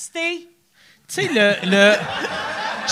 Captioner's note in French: rires